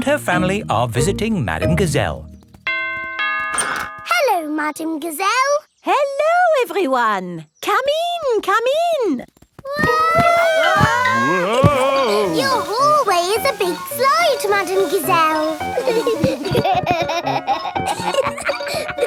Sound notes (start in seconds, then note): 2.6 doorbell rings; 10.1 all yelling; 16.5 giggling